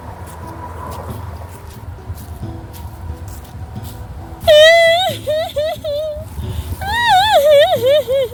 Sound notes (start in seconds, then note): 4.7 sad exaggerated wailing/crying